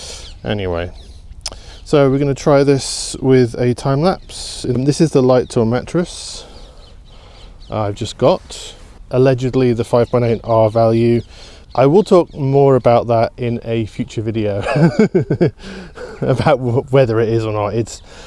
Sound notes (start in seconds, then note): 14.5 laughs